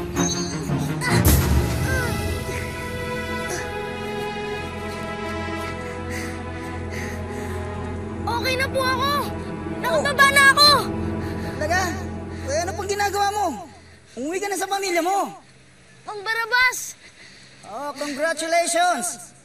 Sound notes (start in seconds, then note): 0.9 grunts, groans